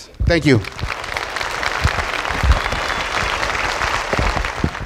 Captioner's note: applause